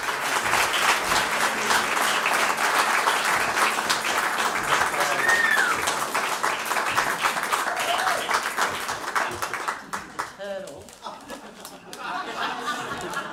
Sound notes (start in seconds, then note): 0.0 cheering and applause; 11.0 laughter